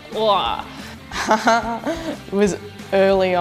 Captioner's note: chuckles